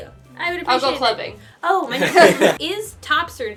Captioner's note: laughter